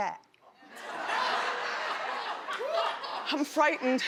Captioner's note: laughing